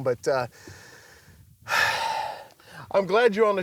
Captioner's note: sighs